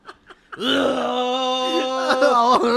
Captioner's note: digestive noises